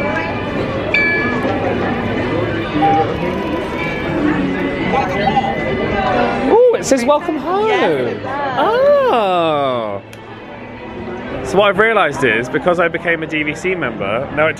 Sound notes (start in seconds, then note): 0.9 machine chimes